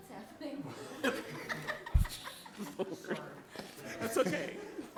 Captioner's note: all laughing